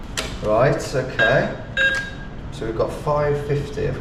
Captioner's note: ATM beeps